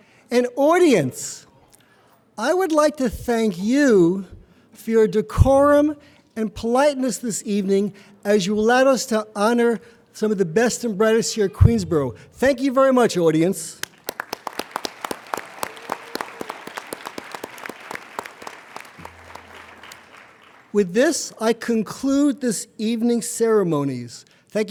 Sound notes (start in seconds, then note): 13.8 applauding